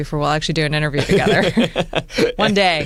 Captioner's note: laughs